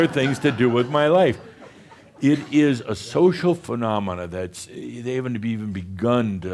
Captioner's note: some chuckles